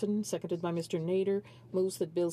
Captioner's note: speaking French